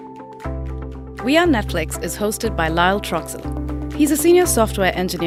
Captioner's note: voiceover